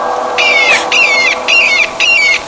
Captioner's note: loud bird screeching